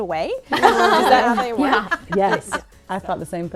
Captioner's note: laughter